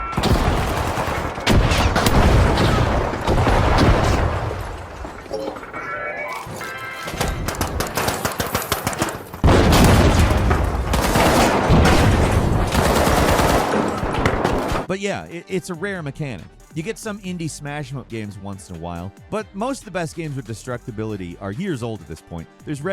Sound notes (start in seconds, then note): 1.2 devices exploding; 7.2 weapons firing